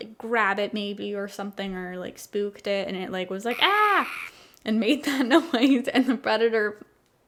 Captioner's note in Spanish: ríe